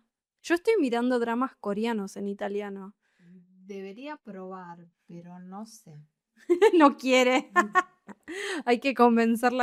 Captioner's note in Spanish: risas